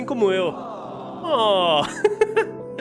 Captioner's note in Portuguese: risos